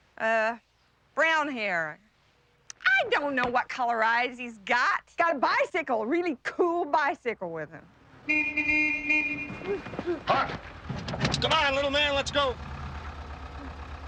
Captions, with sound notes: Uh, brown hair. I don't know what color eyes he's got! Got a bicycle, a really cool bicycle with him. (horn beeping) (Huck gasping) - Huck! Come on little man, let's go!